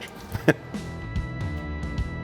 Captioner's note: chuckles; rock music